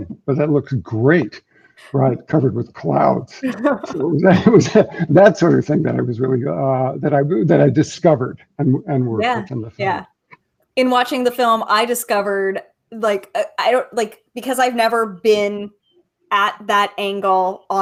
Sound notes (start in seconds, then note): 3.5 chuckling